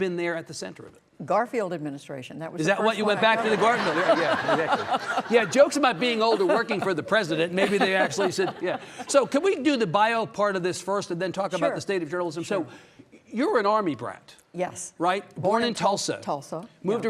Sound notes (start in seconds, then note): 5.2 audience laughing; 6.2 Judy laughs